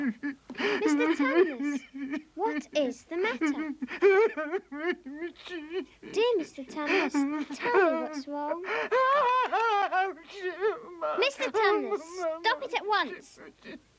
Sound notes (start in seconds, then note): 3.8 weeping continues; 8.6 weeping continues